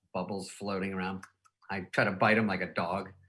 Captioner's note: teeth clacking